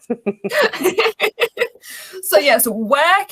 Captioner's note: laughs